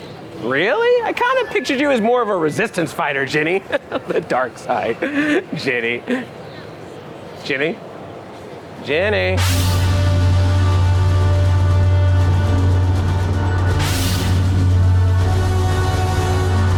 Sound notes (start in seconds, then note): 3.3 laughs; 9.3 dramatic music